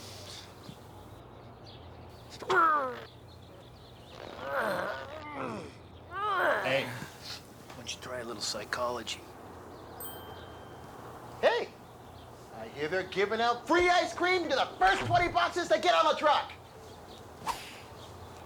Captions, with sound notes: [ GROWLING ] HEY, WHY DON'T YOU TRY A LITTLE PSYCHOLOGY? [ BELL DINGS ] HEY, I HEAR THEY'RE GIVING OUT FREE ICE CREAM TO THE FIRST 20 BOXES THAT GET ON THE TRUCK.